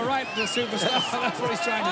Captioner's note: crowd gasps